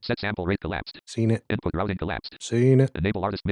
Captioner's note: automated voice